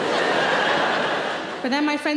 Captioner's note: audience laughter